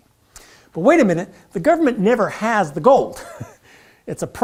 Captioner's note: laugh